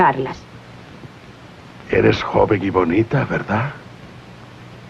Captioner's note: none